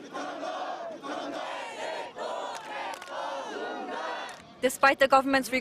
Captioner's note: sound of protests